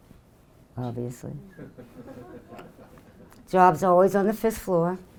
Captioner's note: audience laughing